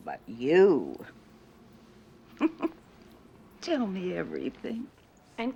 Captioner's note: chuckles